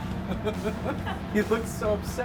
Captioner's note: laughing